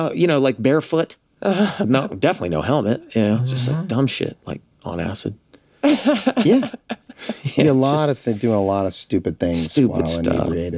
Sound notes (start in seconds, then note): 5.8 laughs